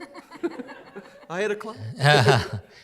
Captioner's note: laughter